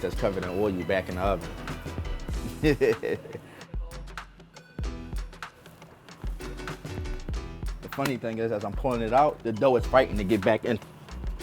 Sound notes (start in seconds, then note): 2.5 laughing; 4.5 rhythmic synth music